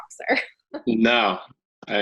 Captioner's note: chuckling